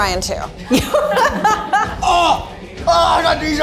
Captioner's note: laughs